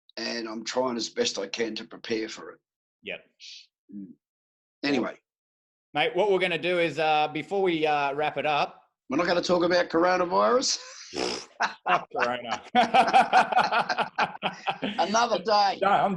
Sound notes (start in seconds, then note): 11.3 both laughing